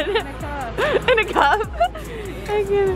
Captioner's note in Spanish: se ríe